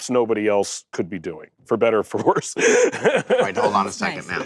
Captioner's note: laughs